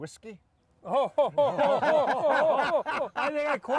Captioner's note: all laughing